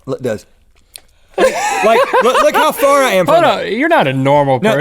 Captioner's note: laughs